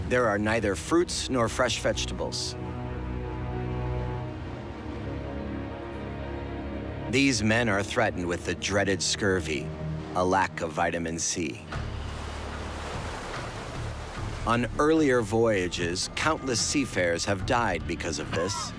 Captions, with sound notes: there are neither fruits nor fresh vegetables. These men are threatened with the dreaded scurvy, a lack of vitamin C. [waves] On earlier voyages, countless seafarers have died because of this.